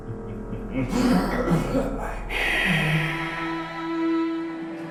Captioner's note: Dracula chuckles evilly